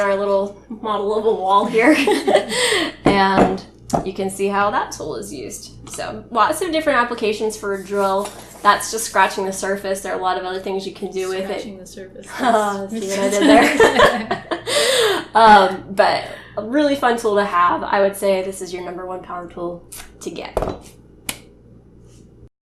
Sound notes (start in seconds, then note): 12.3 giggles